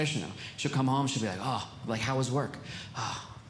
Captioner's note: sighs